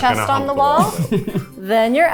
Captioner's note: chuckling